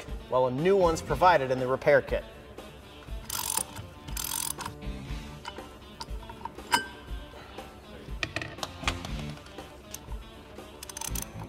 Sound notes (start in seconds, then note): 3.1 wrenches rattling; 3.4 rock music